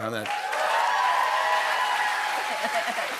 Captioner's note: cheers and applause